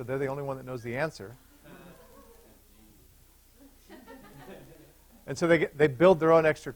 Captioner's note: laughter